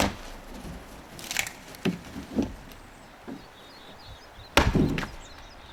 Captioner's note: wood chopping